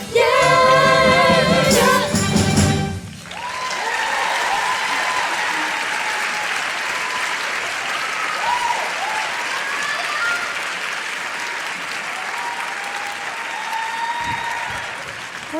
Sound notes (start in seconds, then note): 0.0 music and singing; 4.8 singing; 5.3 applause; 5.3 cheering; 12.2 applause